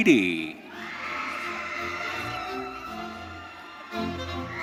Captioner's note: audience cheering